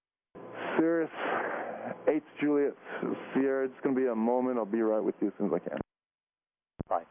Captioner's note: sighs